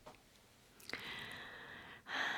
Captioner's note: breathes in heavily